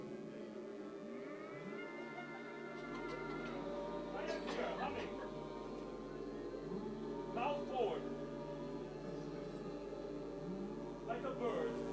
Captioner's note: audience joins in